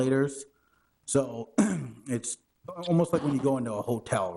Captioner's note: clears throat